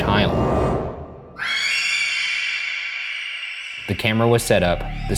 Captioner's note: screaming